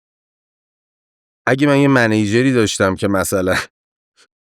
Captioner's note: laughs